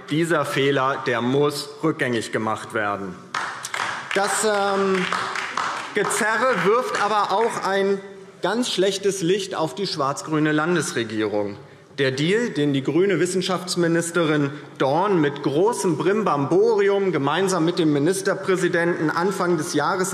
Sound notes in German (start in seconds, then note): 3.3 Beifall DIE LINKE